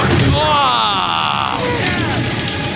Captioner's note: impressed noises